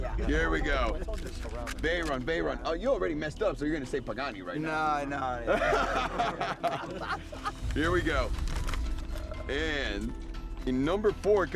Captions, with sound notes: Here we go. Veyron, Veyron. You already messed up, so you're gonna say Pagani right now. Nah, no. [laughter] Here we go. And in number 4